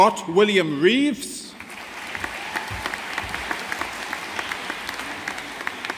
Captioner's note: audience applauding